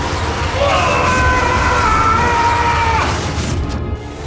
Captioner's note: doctor struggles and groans; screaming